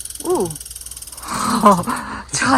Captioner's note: sounds of unknown wild animals